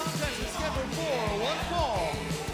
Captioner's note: bell ringing